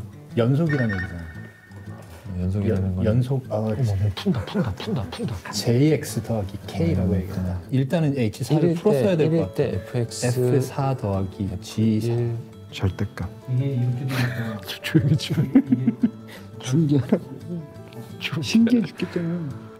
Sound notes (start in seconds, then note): 14.8 giggle